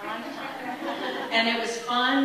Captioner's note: audience laughing